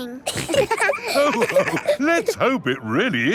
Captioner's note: all laughing